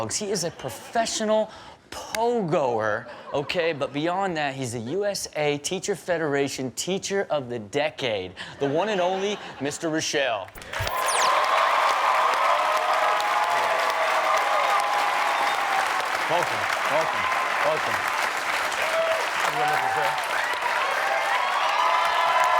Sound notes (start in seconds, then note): 10.8 audience cheering; 18.3 audience cheering and clapping